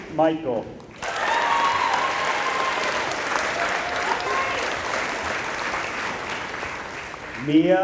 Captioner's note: applause